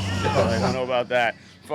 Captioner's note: scoffs